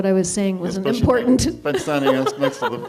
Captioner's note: laughs